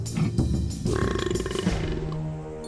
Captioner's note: burps